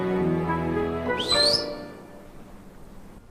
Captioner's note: whistles